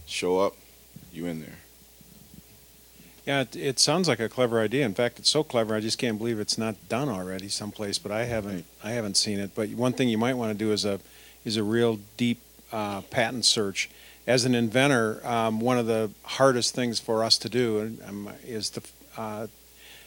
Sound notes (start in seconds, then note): none